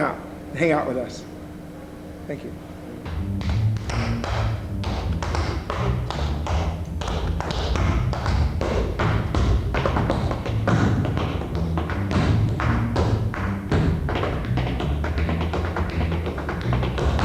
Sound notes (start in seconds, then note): 3.6 fun rhythmic music; 3.6 light tapping